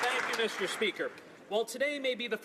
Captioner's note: some Applause